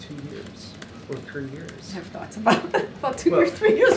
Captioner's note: laughs